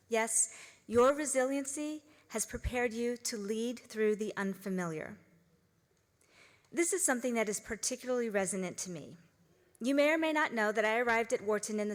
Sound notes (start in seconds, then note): none